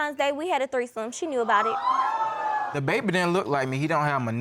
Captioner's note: audience exclaiming